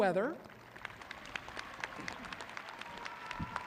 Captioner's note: applauding